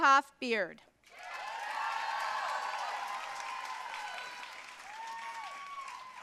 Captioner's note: audience cheering and applauding